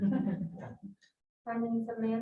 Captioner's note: all laughing